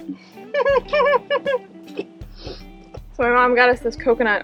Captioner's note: giggling